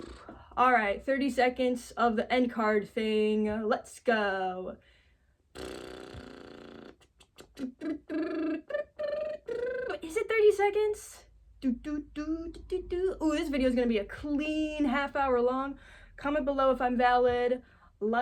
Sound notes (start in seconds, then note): 5.5 bubble lips; 7.3 scatting